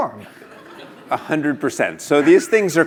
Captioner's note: laugh